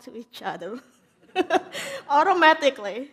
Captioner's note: laughs